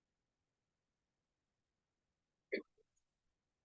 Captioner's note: silence